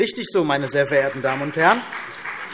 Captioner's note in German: Beifall CDU und BÜNDNIS 90/DIE GRÜNEN